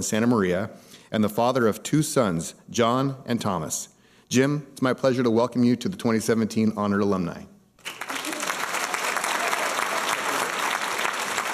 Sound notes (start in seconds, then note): 7.8 applause